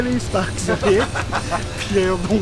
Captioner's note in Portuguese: risos